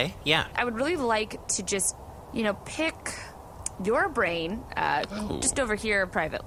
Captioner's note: Vulm goes ‘ooh!’